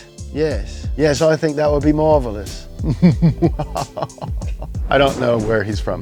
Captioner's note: laughs evilly